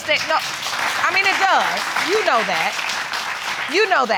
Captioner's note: audience applauding